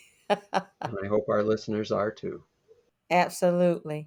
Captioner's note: laughs